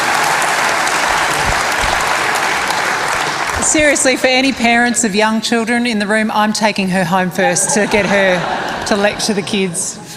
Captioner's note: applause